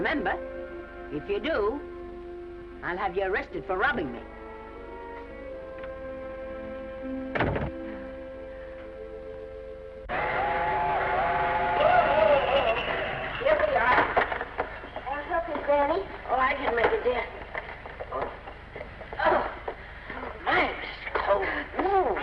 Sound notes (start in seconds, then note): 4.5 gentle music; 7.3 door latches; 7.8 Esther sighs; 10.2 train horn blaring